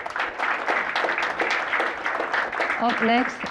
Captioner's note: applause